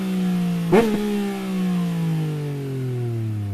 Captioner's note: downshifting sound